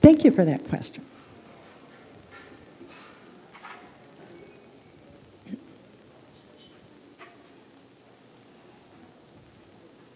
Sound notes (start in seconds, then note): 3.4 pause